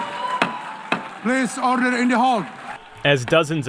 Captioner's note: cheering